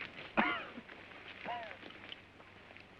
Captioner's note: wounded man coughs